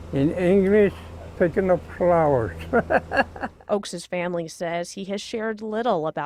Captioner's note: laughter